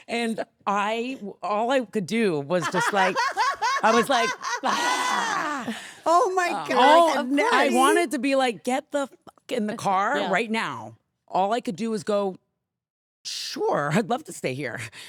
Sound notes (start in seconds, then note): 2.6 Stephanie laughing hysterically; 4.9 shouting